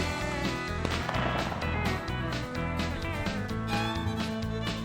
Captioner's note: gun fires